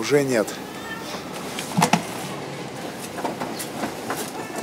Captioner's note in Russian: Кошачье мяуканье